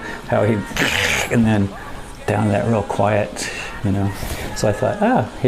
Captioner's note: grunting